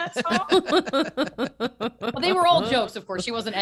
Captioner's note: laughing